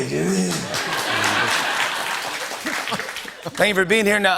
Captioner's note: laughter